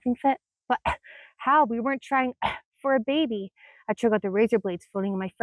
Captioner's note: cough